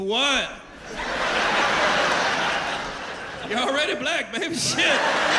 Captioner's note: laughter